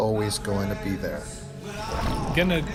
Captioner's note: water splashing